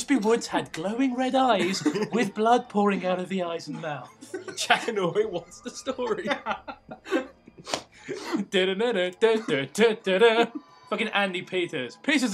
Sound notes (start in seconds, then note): 6.9 humming; 6.9 laughter